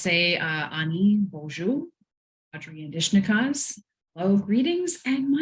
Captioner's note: speaks foreign language